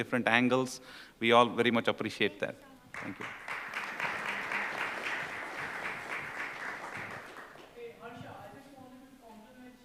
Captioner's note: applause